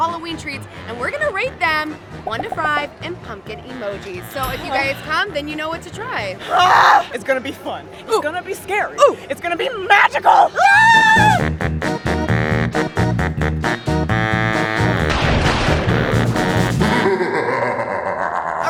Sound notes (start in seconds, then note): 10.0 screams with excitement; 16.7 spooky laugh